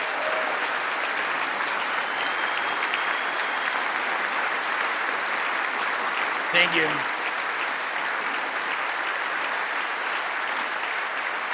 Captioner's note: cheering and Applause